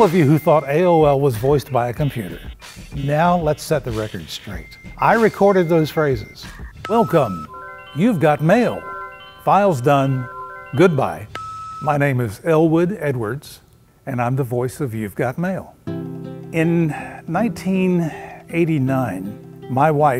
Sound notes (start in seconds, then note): 6.8 dinging; 11.0 beeping